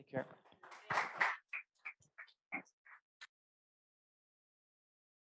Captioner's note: applause